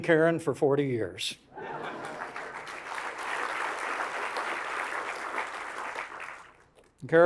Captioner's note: applause